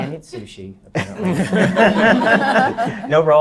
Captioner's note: laughs